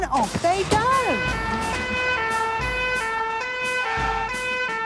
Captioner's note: siren sounding